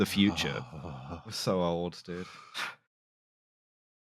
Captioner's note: verbal shudder